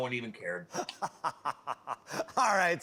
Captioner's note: laughing